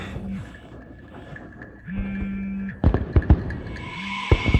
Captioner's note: phone vibrates